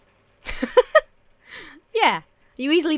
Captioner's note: laughs